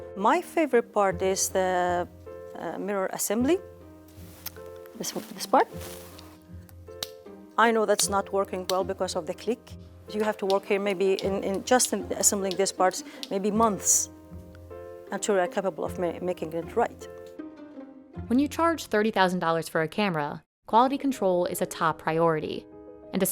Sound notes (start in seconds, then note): 6.3 part clicking